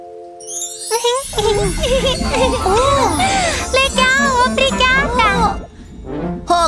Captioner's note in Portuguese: Risos